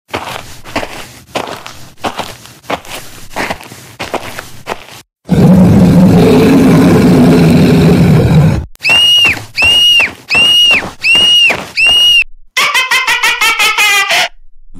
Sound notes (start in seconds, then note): 5.2 Roar; 12.7 Laughter